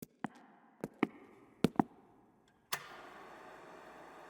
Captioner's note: footsteps thumping